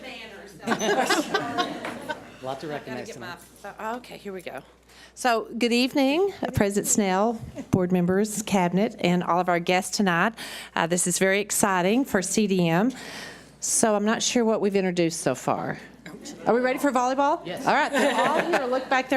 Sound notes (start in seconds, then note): 0.6 audience laughs